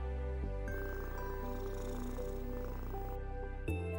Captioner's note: cat purring